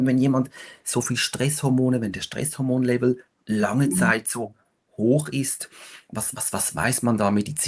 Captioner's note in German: schnauben